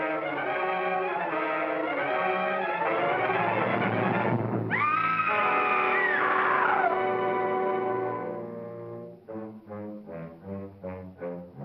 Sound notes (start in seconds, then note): 0.0 suspenseful music; 4.7 Gail screams; 4.7 suspenseful music; 8.5 ominous music